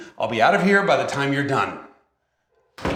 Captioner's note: bangs on door